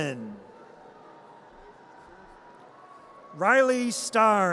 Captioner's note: audience cheers